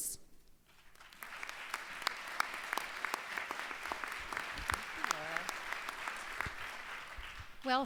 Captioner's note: applause